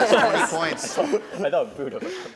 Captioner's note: laughing